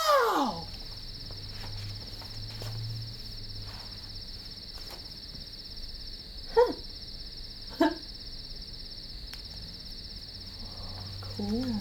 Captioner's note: sounds of night life can be heard